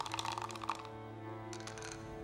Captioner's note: dice rattling